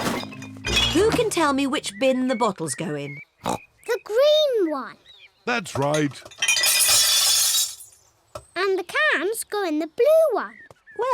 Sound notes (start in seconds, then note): 3.4 snorts; 5.9 bottles clink